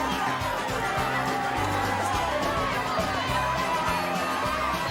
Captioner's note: Gritando, charlando